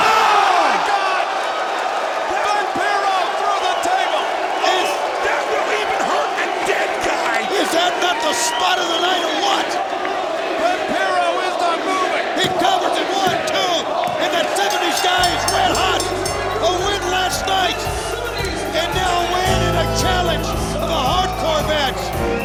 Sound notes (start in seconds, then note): 14.4 bell ringing